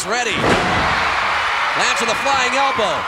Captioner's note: audience cheering